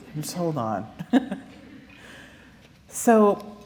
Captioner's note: laughter